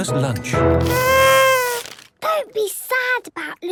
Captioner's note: horn blowing